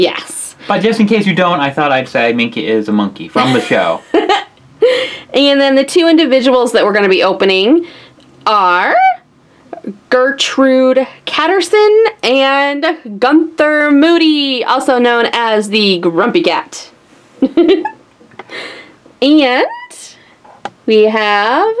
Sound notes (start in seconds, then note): 3.3 laughs; 17.4 laughs